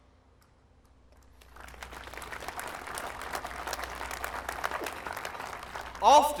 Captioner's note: applause